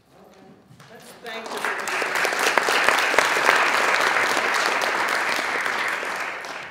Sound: audience applauding

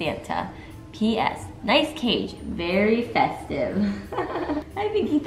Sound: laughs

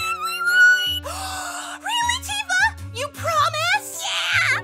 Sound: Tifa slurs her words again; gasp of excitement

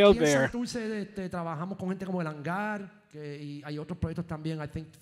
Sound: speaking in foreign language

